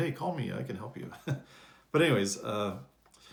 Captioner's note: chuckles